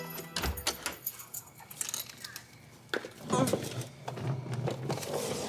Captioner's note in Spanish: Sonido al abrir la puerta